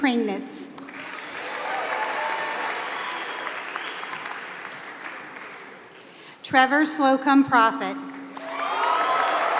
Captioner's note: applause; applause